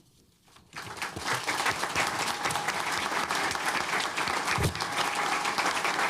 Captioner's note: applause